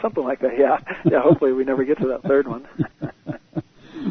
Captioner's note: laughter